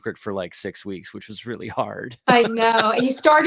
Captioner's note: chuckles